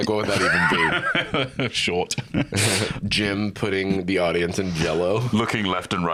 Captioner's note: laughs